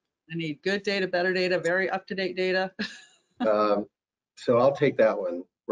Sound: laughs

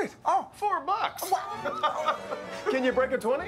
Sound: gasps; laughter

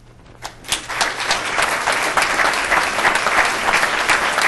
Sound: applause

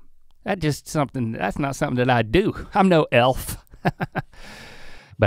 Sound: laughs

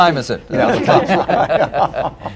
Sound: laughter

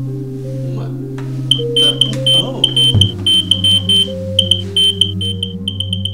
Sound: smoke Alarm continues chirping rhythmically

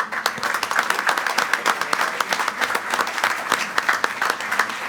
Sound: group applauding

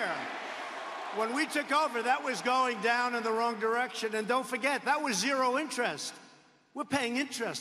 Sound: cheers and applause

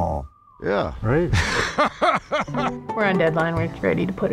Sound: laughing

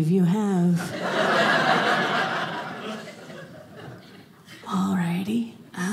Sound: audience laughing

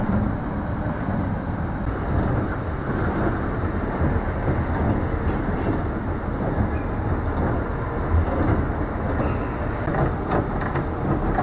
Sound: hitch lowering

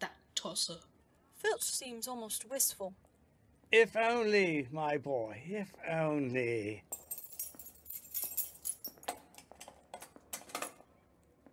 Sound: keys jangling

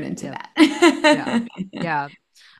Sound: laughs

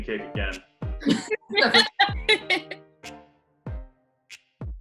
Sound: laughing

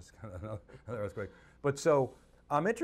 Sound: chuckles

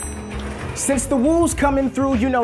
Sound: bell dinging

